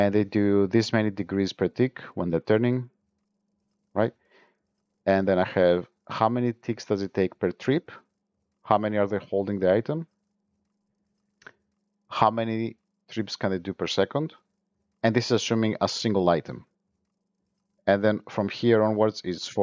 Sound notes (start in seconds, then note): 9.7 ticks